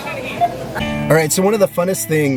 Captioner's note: laughter